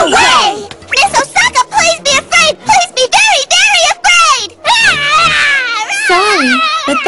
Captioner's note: screams like mad